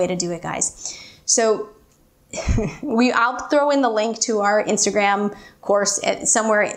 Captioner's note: chuckles